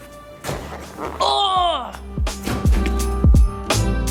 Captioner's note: grunting; upbeat music